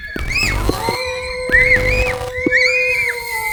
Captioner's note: howling